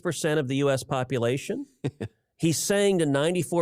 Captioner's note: laughter